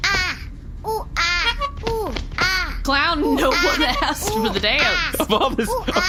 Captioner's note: honking